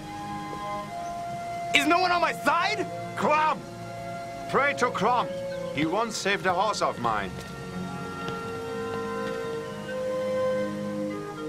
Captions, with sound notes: Is no one on my side!? - Crom! Pray to Crom. He once saved the horse of mine. (footsteps)